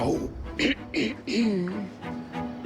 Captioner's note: clears throat